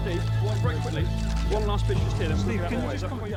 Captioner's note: cameras clicking